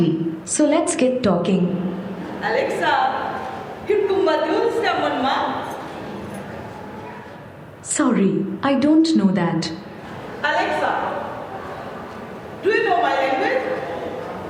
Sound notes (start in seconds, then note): 3.7 non-english speech